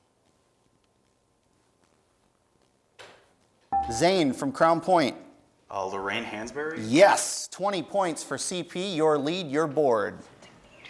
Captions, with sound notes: (dinging) Zane from Crown Point. >> Lorraine Hansberry. >> Yes, 20 points for CP. Your lead, your board.